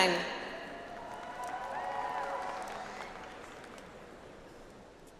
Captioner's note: audience applauds